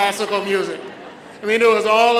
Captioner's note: audience laughs